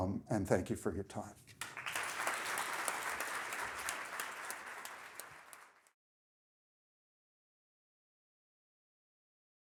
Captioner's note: applause